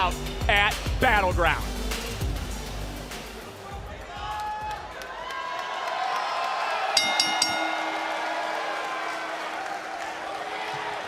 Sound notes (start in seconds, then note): 6.5 crowd cheers; 7.0 bell rings